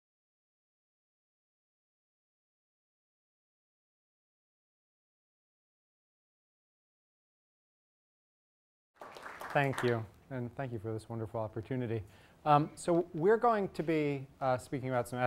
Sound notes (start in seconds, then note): 8.9 applause